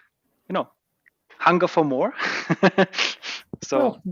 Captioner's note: chuckles